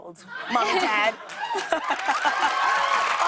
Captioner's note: cheers and applause